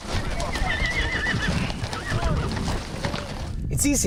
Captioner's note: horses neighing